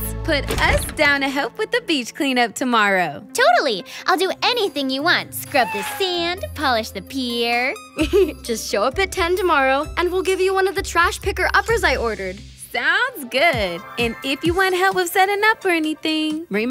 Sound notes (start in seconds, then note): 8.0 giggles